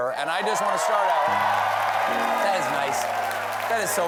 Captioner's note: cheers and applause